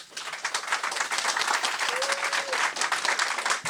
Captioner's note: applause